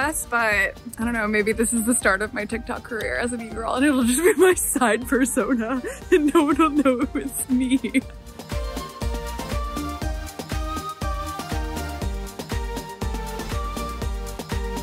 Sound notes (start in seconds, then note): 8.1 laughs; 8.9 cheery music plays